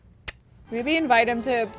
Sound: smooching

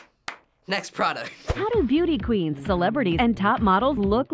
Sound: voice-over

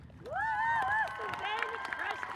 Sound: audience cheers and applauds

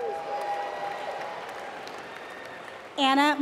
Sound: applause

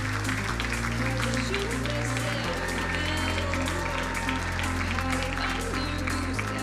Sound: crowd applauding; upbeat music; crowd cheering drowns out singer

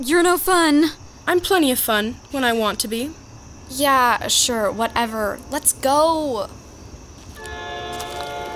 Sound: train passes

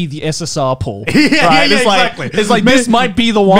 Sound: laughing

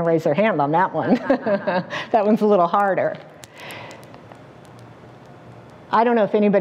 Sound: laugh

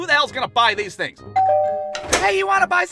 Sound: door bell rings

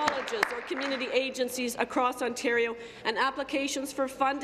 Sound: applause

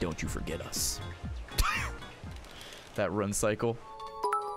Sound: laughs

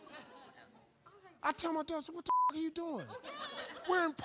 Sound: beep

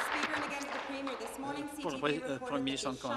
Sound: applause

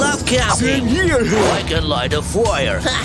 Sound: chatting

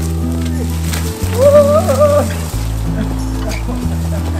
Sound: yells going down the steep hill

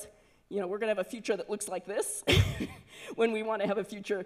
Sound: laughs

